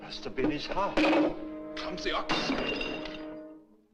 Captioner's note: bottle Shatters